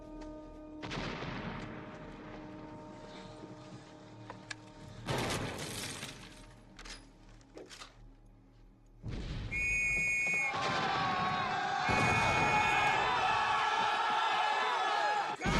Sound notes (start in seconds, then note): 0.8 continuous explosions; 9.4 whistles; 13.8 whistles